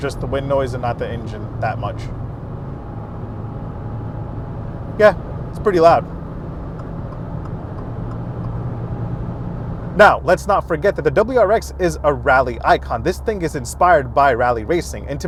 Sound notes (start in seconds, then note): 3.7 wind noise; 6.4 blinker clicking